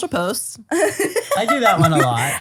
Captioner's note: laughs